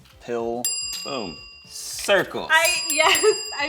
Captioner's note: bell chimes